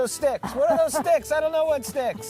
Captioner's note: laughing